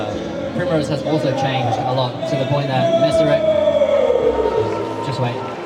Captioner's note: background yelling